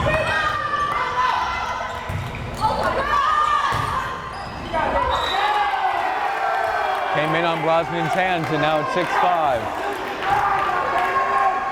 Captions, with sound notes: (whistle blares) Came in on Brosnan's hands and now it's 6-5!